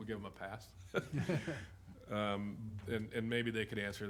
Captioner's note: chuckles